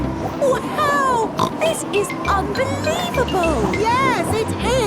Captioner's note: snorts